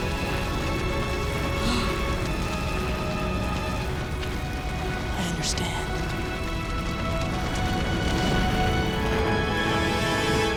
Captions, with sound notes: [gasping] I understand.